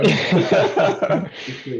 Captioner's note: laughter